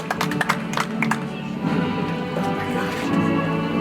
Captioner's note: audience applauds